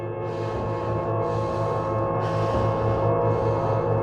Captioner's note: Devin panting